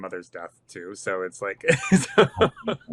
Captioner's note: laughing